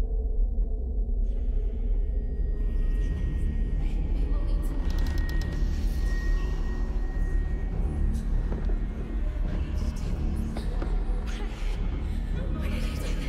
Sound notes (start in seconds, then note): 4.0 creaking